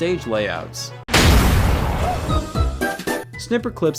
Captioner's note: object smashes; upbeat music